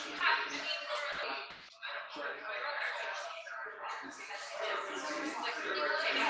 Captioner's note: people chattering indistinctly